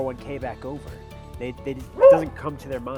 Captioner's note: dog barks